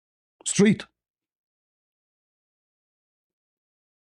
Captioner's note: Arabic